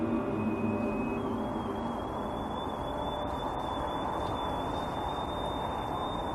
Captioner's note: energy detector device beeping and whistling